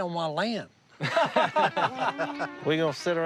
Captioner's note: laughter